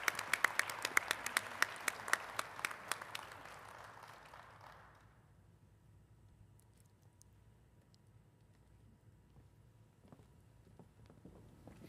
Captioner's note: applause